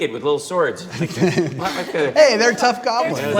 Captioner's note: laughs